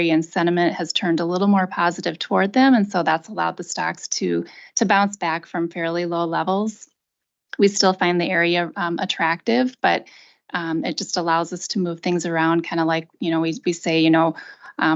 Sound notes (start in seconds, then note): none